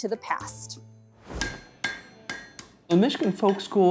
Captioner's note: hammer banging